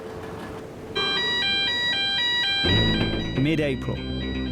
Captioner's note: alarm blares